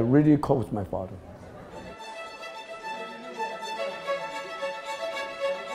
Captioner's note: chattering in the restaurant